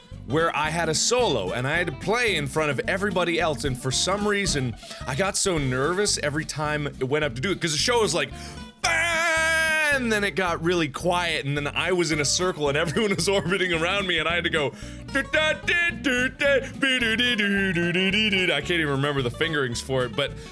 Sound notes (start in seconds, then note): 8.3 gasp; 14.7 gasp; 15.1 trumpet noises; 20.3 gasp